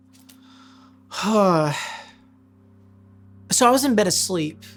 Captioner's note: sighing deeply